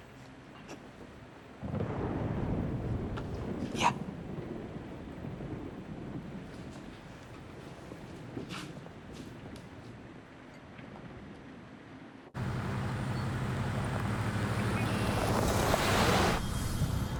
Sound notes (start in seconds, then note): 1.6 thunder; 15.3 music on radio, faint